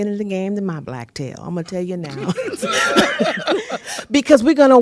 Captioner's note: laughter